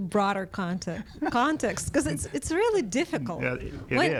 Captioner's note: laughs